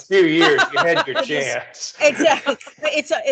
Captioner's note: laughing